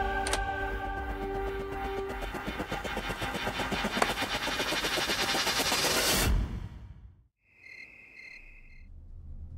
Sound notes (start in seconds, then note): 7.4 crickets chirping